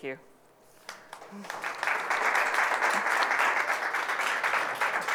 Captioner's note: audience applauding